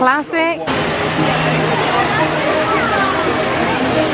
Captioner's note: ride humming